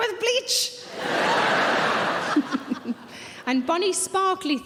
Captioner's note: audience laughing